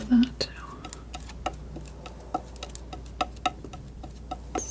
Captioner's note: scratching